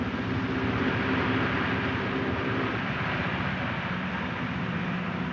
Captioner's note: plane engine roars